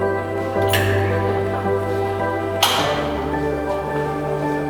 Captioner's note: bright music continues; metal clacks